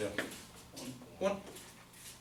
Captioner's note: voiceover